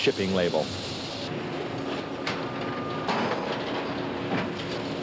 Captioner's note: machinery running